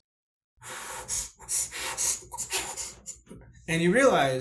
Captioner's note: hyperventilating